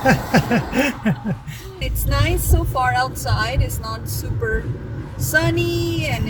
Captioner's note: laughter